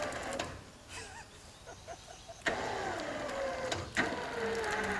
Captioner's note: laughing